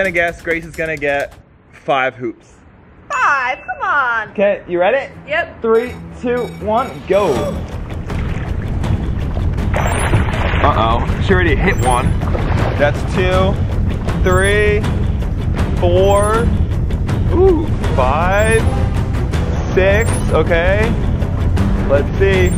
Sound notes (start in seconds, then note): 3.5 bell ding; 7.8 water splashing; 9.8 high intensity music